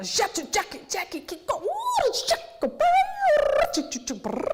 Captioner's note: beatboxes